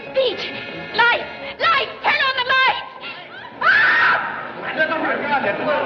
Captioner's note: screams; crowd Clamoring